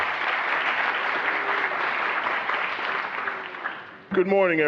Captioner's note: applause